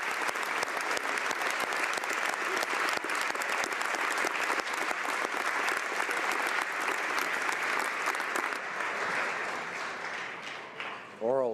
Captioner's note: applause